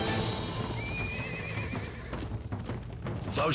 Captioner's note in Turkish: At kişneme sesi